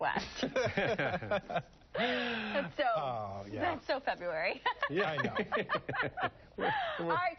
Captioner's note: laughter